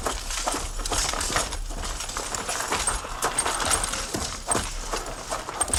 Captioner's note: tapping